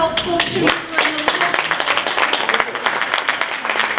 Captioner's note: applause